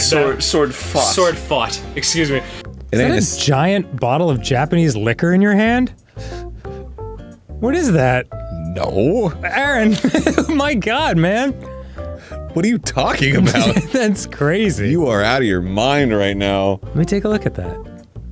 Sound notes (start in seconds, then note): 9.8 laughing